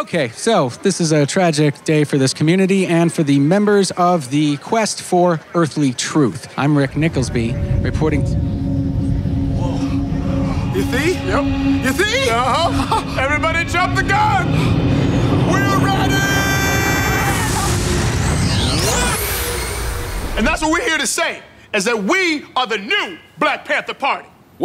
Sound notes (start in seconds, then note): 8.1 ominous howling; 17.6 beams ringing